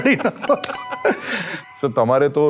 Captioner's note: laughs